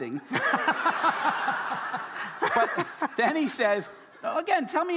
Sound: audience laughing

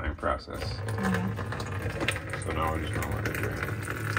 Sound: water running

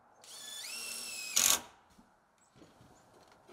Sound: drill whirring

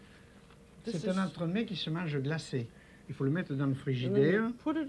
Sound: speaking French

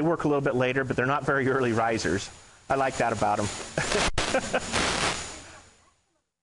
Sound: laughing

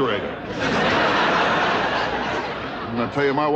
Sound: audience laughing

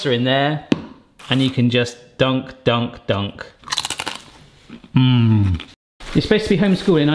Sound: crunches

